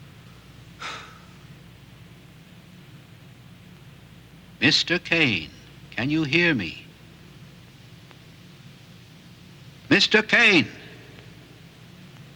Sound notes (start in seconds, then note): 0.8 Casey sighs